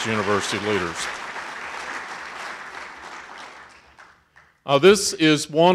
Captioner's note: audience applauding